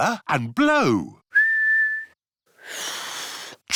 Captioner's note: whistles; failed whistle